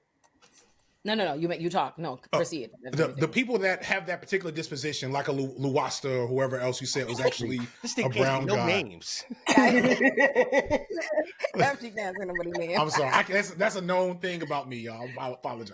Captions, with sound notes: No, no, no. No, proceed. The people that have that particular disposition, like a Lewasta or whoever else you said, was actually a brown guy. This thing has no names. [LAUGHTER] I'm going to have to dance in a minute. I'm sorry. That's a known thing about me, y'all. I apologize.